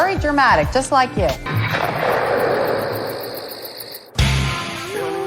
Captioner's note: crickets